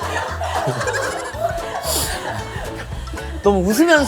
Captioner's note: hahaha